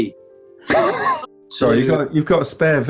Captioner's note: sniggering